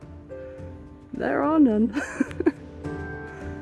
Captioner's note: laughing